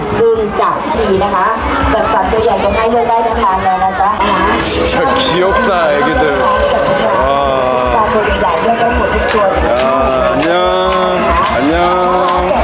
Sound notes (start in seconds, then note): 5.8 laughing